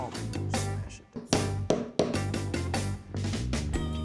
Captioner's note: hammering